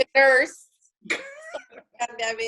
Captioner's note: laughing